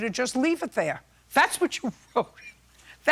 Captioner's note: laughing